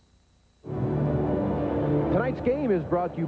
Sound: ambient ballpark noise

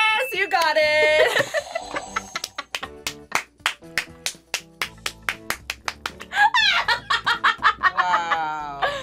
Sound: laughs and claps

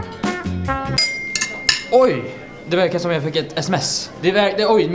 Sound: clings glass

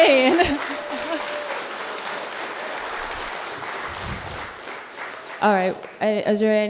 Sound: audience laughter and applause; laughs

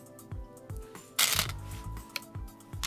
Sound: stones rattling

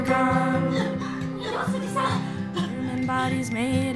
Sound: coughing

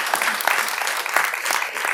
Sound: applause

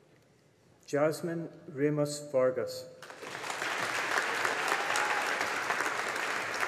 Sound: audience applauding

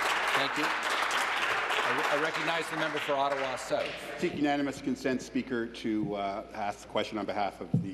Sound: applause

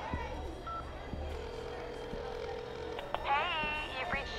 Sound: line trilling

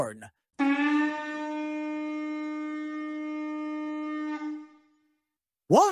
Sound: horn blares

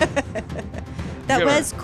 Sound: laughing

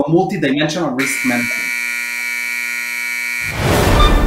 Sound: buzzer

